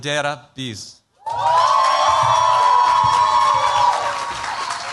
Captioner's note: cheers, applause